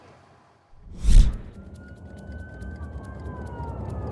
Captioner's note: sirens